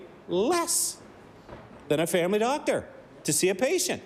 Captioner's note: none